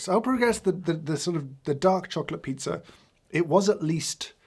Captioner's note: none